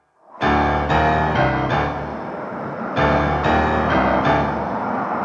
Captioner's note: airplanes rumbling